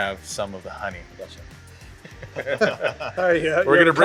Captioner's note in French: Rires